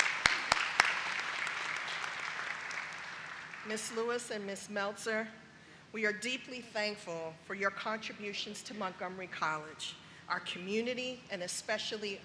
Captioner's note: applause